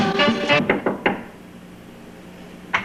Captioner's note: knock knock knock